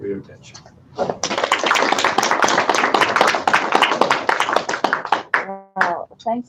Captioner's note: applause